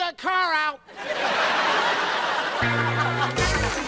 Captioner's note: audience laughter; upbeat Jazz music